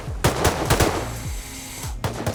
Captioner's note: diving tank sound